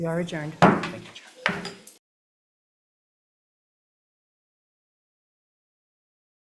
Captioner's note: gavel bangs